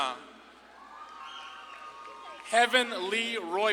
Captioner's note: audience claps and cheers